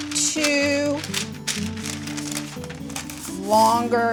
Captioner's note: parchment paper rustling